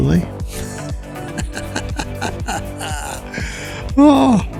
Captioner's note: laughs